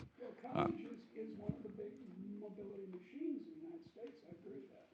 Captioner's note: faintly speaking